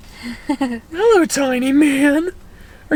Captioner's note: laughs